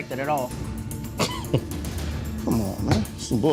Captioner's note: scoffs